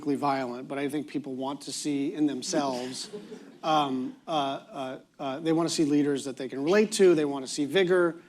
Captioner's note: laughter